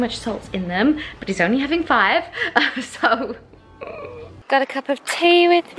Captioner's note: groans